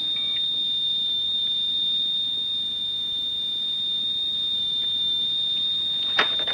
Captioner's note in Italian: segnale acustico fisso